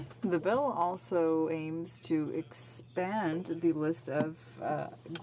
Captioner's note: speaking French